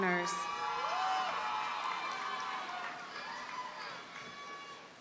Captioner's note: audience cheers and applauds